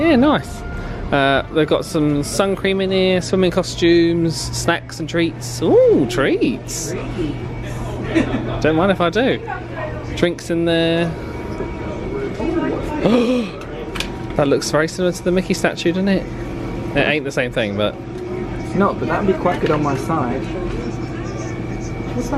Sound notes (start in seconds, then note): 13.0 gasps